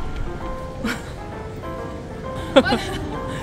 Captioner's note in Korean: 웃음